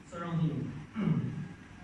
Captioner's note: clearing throat again